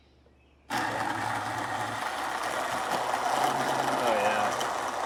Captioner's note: immersion blender whirring